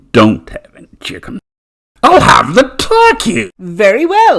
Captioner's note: happily